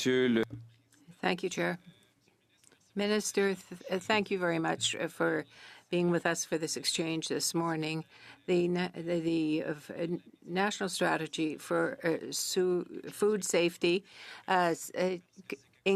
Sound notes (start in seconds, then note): 5.1 speaking French